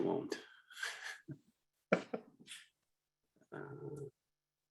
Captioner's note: laughing